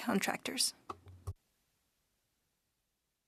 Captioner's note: speaking French